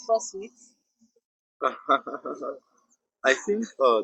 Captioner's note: laughs